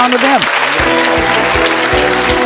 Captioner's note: audience clapping; holiday music